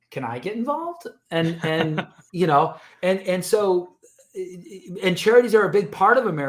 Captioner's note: chuckles